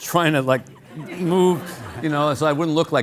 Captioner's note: audience laughing